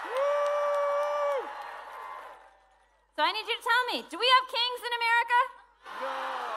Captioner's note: cheering